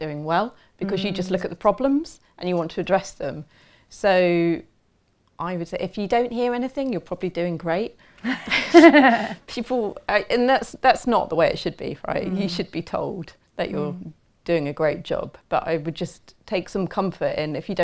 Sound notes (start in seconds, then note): 8.2 laughter